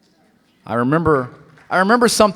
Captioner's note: applause